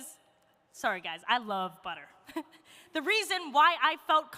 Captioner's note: chuckles